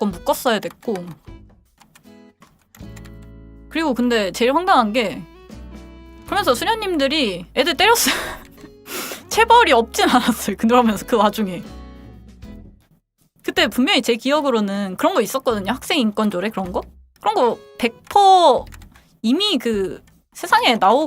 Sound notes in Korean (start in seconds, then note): 8.9 콧방귀